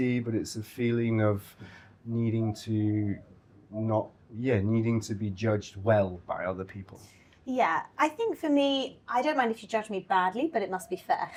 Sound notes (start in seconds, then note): none